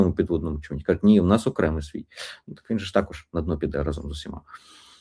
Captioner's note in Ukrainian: сопіння